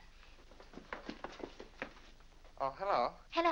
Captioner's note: brisk footsteps down stairs